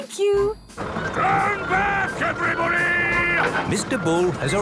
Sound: shouting

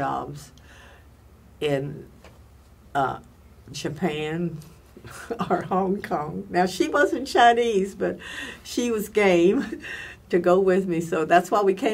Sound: laughs

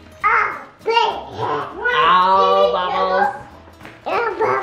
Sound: all chattering

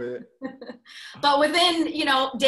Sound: laughs

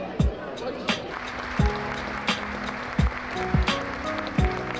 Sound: claps

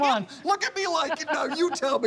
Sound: laughing

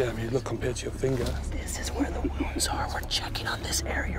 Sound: whispering

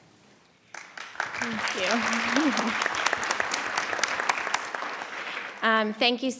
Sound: audience applauding

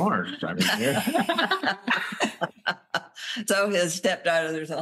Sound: laughter

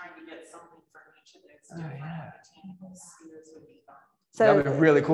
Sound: speaks faintly

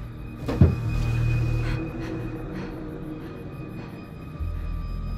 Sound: thump; breathing heavily

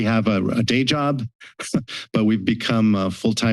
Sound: laughter

